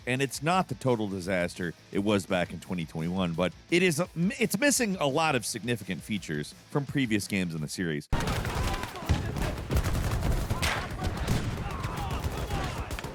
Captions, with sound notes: and it's not the total disaster, it was back in 2021, but it's missing a lot of significant features from previous games in the series. (guns firing)